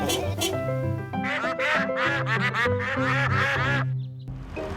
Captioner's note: toots horn; ducks quacking